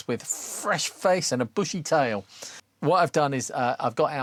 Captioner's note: none